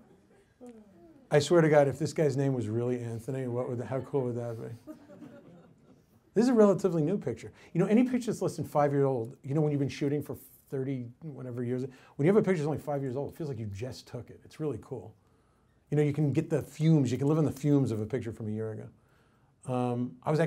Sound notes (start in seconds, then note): 3.9 woman chuckles